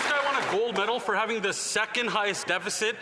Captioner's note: some Applause